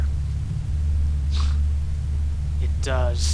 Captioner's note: snort